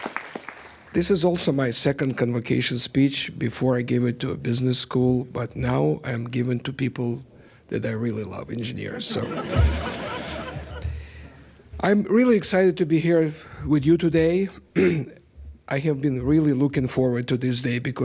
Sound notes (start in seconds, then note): 8.9 laughter